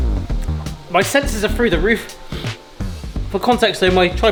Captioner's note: sniffs; sniffs